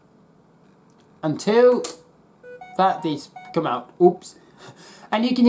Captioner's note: phone notification sound